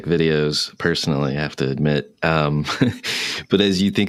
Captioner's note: laughs